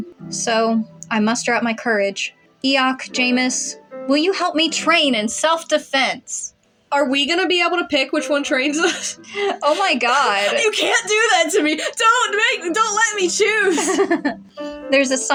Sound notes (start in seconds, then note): 8.8 laughing Nervously; 14.1 laugh